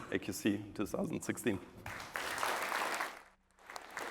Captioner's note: applause